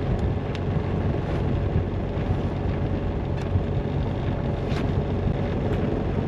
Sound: engine sounds

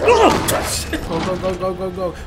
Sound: chuckle

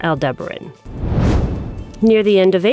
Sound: whoosh

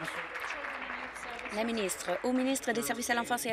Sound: applause

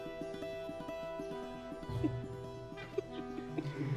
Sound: chuckling

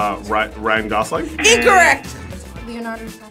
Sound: wrong buzzer rings

